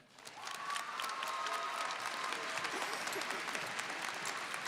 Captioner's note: audience applauding